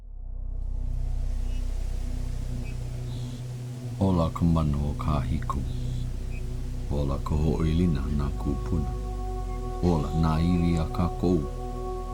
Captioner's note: speaking Hawaiian